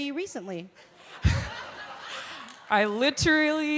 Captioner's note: laughter